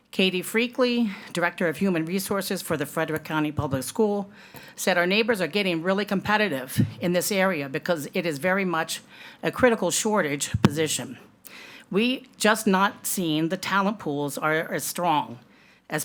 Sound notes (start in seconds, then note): none